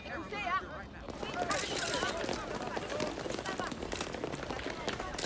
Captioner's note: cameras clicking